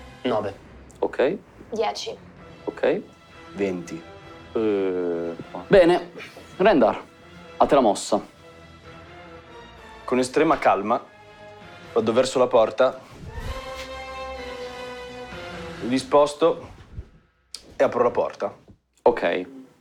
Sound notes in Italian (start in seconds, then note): 4.6 Verso di sorpresa